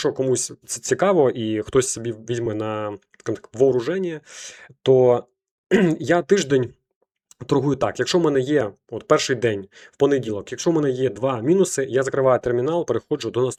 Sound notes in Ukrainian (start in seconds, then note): 5.7 прочищення горла